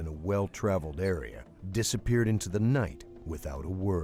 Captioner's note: voiceover